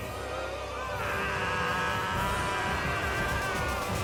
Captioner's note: screaming